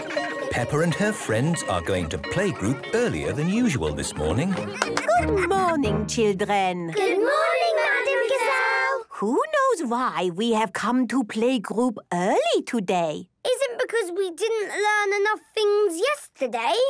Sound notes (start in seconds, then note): 0.0 children giggling; 4.5 claps